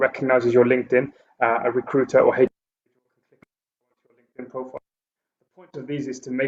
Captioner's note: audio blurs